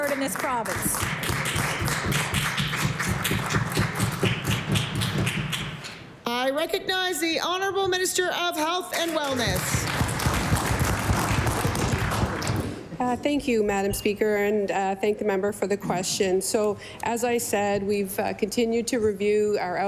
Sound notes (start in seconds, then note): 9.0 applause